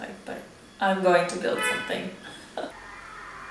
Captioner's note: car honks; chuckles